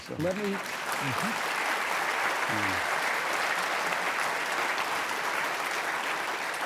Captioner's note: audience applauding